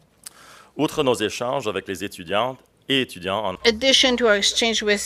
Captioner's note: speaking in French